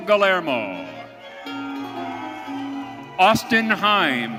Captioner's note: audience cheering